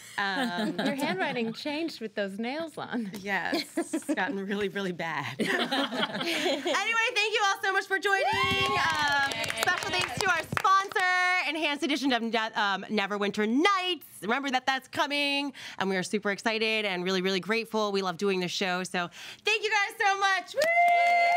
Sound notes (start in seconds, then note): 8.1 girls cheering; 8.2 girls clapping; 20.5 girls cheering; 20.5 girls clapping